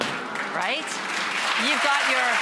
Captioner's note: applauding